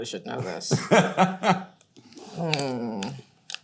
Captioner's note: Hayden laughs